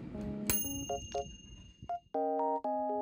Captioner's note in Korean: 완료음